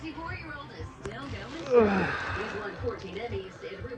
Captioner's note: groans